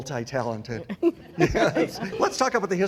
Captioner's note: laughs